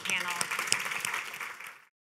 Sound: applause

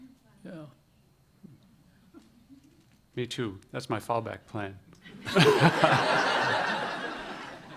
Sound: laughter

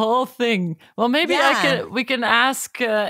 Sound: laughs

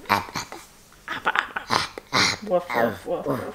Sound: grunting

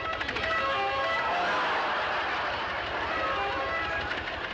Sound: laughter

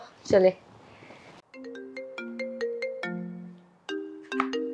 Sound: phone rings

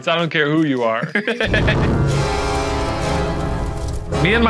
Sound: laughing

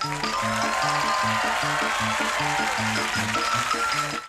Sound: crowd cheering

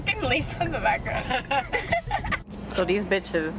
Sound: laughing

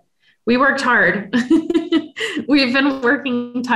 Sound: laughs

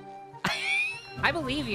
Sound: wheeze

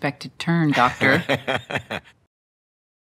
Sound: laughs

